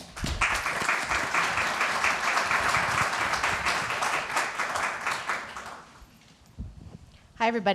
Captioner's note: applause